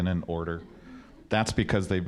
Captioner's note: audience chuckling